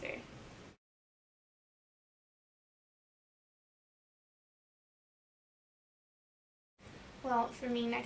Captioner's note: blank audion